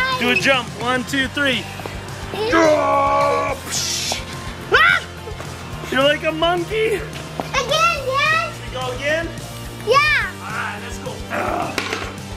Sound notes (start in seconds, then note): 2.0 straining noise